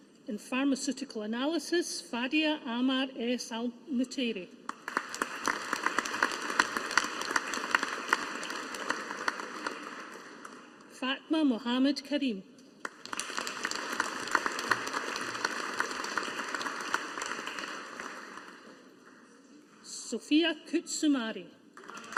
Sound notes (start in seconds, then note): 4.7 audience applauding; 12.8 audience applauding